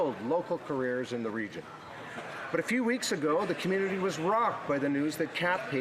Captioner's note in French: voix de l'interprète